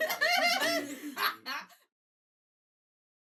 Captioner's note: all laughing